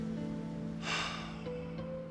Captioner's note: sighs